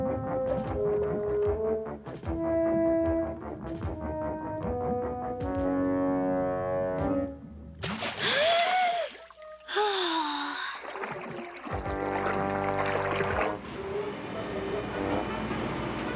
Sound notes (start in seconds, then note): 8.2 takes deep breath; 8.2 exhales